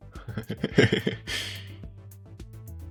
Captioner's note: laughing